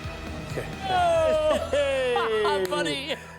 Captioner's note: laughs